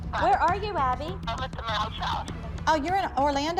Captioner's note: on phone